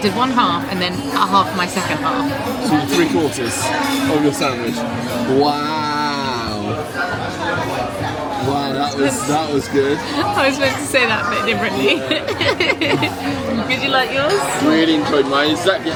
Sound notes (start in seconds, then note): 13.5 laughs